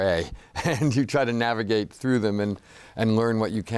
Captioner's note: laughs